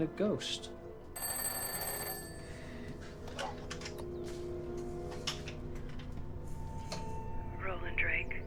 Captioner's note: phone ringing